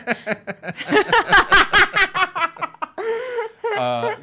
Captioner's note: laughs